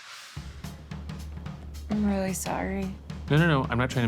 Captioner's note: none